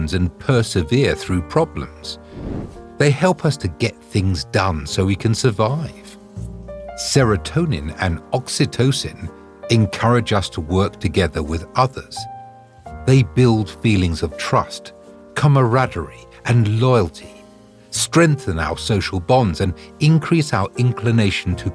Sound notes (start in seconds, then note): 2.2 air whooshing